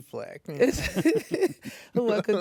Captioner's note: laughs